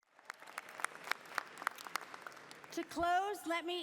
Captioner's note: applause